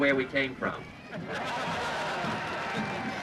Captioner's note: cheers